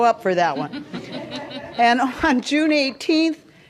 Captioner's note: laughter